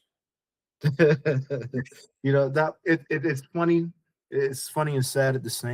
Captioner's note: laughing